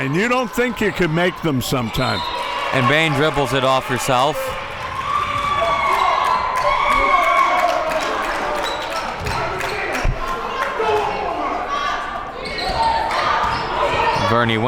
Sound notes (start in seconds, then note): 2.1 whistle blows; 5.0 audience screaming